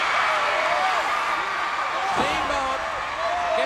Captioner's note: crowd cheers